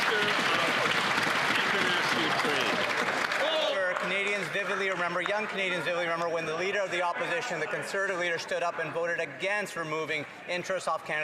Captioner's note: some Applause